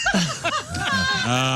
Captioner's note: laughing